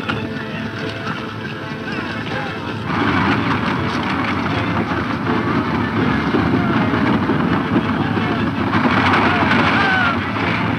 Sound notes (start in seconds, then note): 2.9 wagons rattling loudly